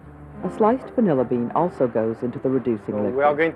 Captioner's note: voiceover